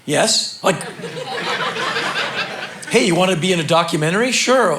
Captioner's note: crowd laughing